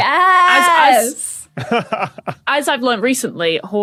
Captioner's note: laughs